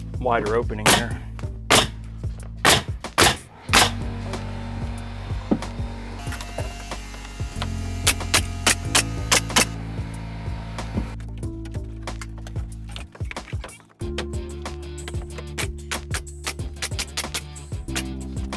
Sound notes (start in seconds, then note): 1.1 nails clicking; 4.3 gentle music; 8.0 nails clicking; 10.5 gentle music; 15.4 nails clicking